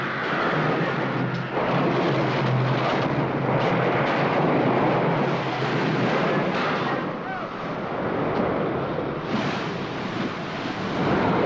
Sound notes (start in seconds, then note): 0.2 sounds of destruction; 0.2 wind howls; 4.2 waves crashing; 5.5 wind howls; 7.2 men yell; 8.1 waves & wind; 8.4 water crashing